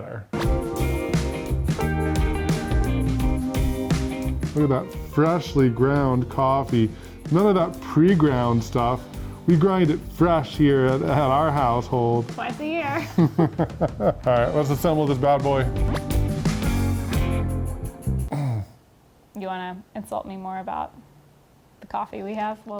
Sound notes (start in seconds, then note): 0.2 light music; 12.8 laughs; 16.5 groans